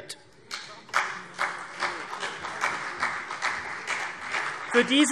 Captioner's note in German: Beifall CDU und vereinzelt BÜNDNIS 90/DIE GRÜNEN